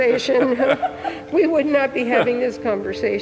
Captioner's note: all laughing